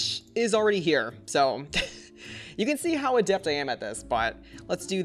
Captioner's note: chuckles